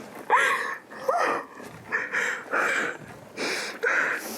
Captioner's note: sobs